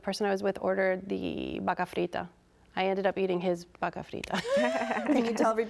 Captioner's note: all laughs